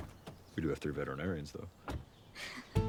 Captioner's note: laughs